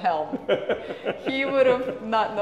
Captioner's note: laughs